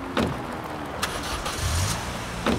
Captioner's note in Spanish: rugido de motor de automóvil